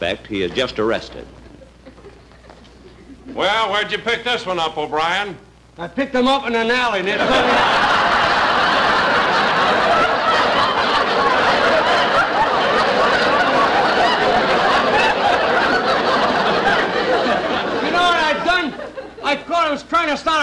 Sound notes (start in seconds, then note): 7.0 audience Laughing